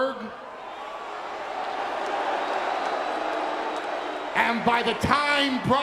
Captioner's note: audience booing